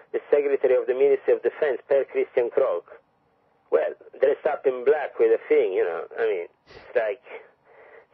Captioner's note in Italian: norvegese